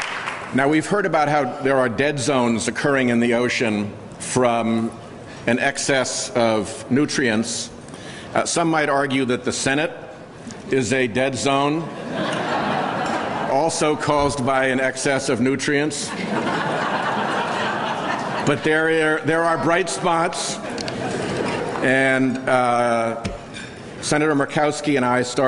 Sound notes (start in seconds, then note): 12.2 laughter